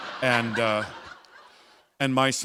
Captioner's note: laughter